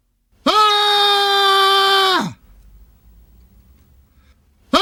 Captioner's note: Alex screaming